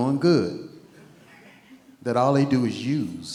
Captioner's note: attendee laughing